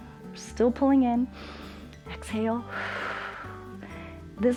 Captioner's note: exhales; inhales